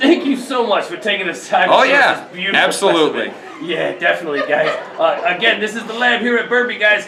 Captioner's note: laughing off screen